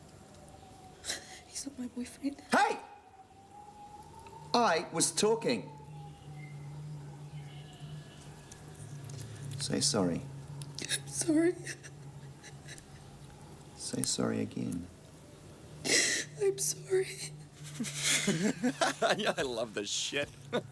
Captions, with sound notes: - He's not my boyfriend. - Hey! I was talking. Say sorry. - I'm sorry. (whimpering) - Say worry again. - I'm sorry. (Graham laughs) - Yeah, I love this shit.